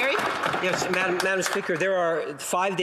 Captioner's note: some Applause